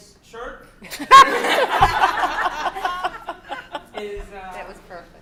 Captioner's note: laughter